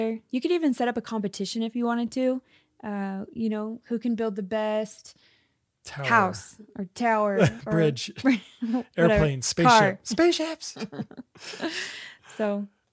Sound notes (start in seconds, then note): 10.6 laughs